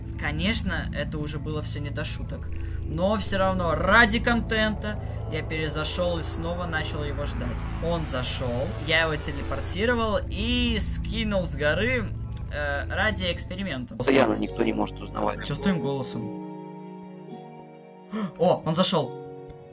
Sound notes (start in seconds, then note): 18.1 gasp